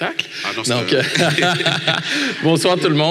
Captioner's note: laughter